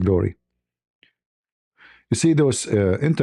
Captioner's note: none